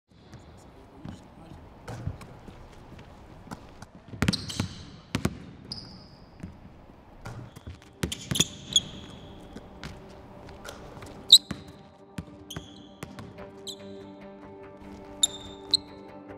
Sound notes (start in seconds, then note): 5.6 shoes squeaking; 13.1 intense music